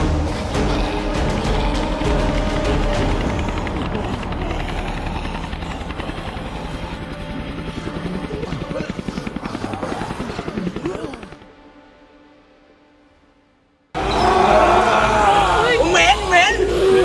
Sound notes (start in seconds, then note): 0.2 intense music playing; 14.0 roaring